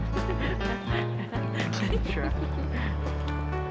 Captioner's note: laughs